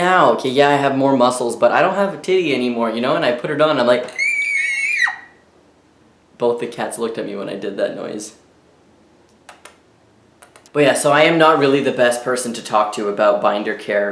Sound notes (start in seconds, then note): 4.1 high pitched screeching